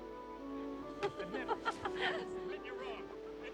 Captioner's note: yentl laughing